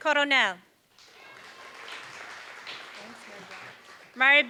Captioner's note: applause